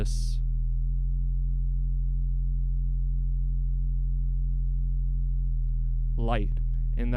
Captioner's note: low hum continues